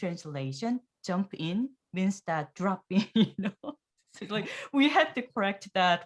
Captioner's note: laughs